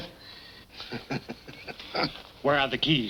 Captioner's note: laughing